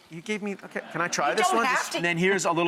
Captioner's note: audience laughs